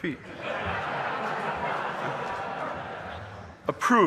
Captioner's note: audience laughing